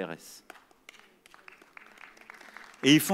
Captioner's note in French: Applaudissements